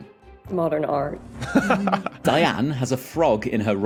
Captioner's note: chuckles